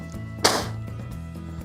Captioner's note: spit #2